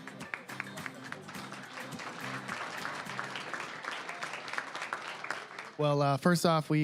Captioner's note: applause